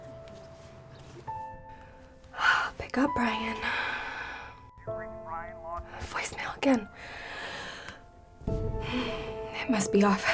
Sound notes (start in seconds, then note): 3.5 sighs; 8.8 sighs